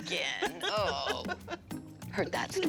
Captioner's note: laughing